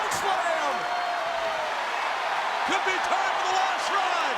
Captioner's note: audience roaring